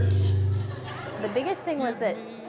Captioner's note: audience laughing